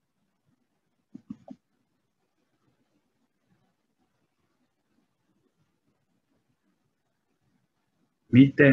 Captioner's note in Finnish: hiljaisuus